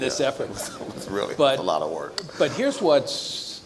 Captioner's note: chuckle